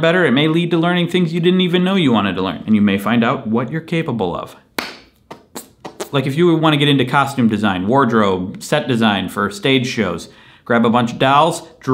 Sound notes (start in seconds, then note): 4.7 clap; 5.5 farting sound